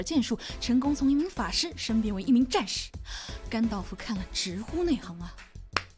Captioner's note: clap